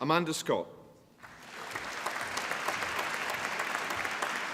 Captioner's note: applause